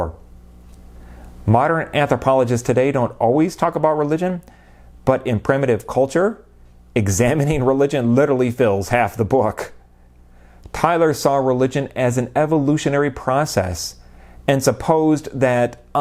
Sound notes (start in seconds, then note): none